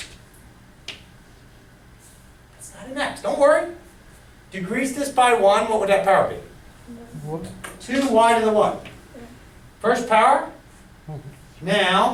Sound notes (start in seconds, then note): 7.2 voiceover